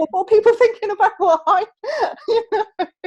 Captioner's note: laughs